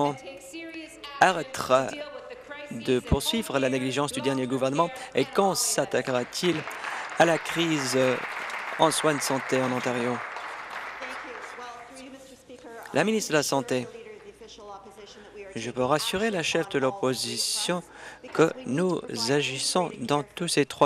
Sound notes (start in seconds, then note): 9.5 applause